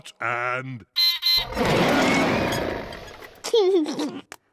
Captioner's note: beeps and roars; laughs